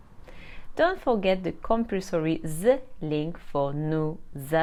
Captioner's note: speaks French